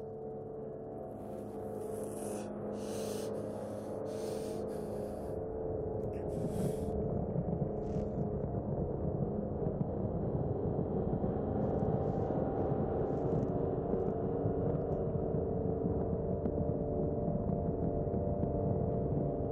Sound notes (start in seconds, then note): 0.1 suspenseful music; 2.7 breathing heavily